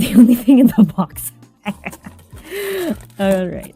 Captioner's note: laugh